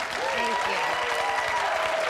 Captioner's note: audience cheering; audience clapping and cheering